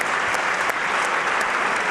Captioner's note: applause